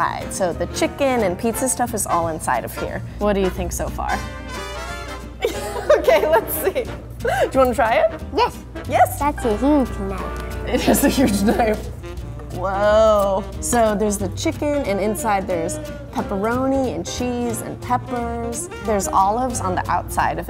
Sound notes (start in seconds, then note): 5.4 laughs